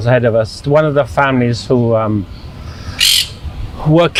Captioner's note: sighing